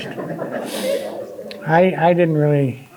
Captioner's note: audience laughing